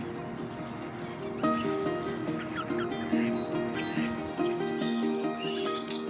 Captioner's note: various bird calls